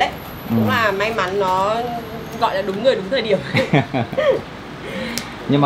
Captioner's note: laughs